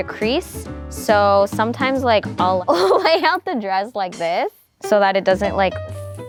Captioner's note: laughs